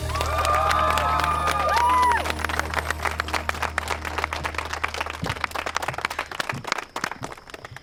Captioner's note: cheering, applause